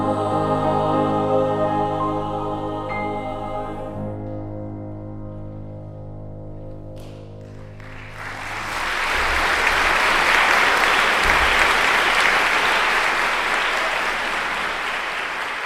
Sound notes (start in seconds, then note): 7.5 audience applauds